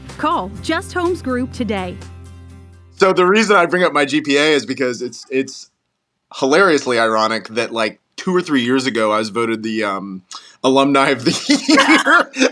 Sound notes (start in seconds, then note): 11.3 laugh